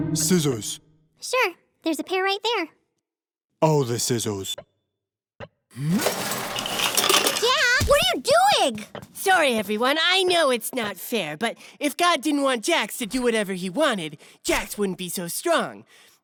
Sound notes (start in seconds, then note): 0.0 ominous music; 7.0 scissors banging